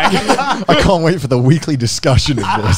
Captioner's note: laughs